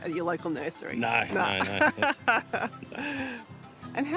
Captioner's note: laughs